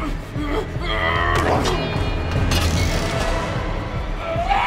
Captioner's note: metal clanks; Jim screams